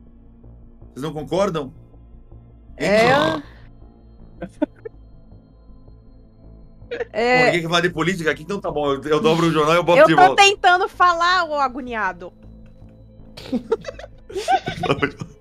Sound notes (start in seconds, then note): 2.9 snoring; 14.3 laughs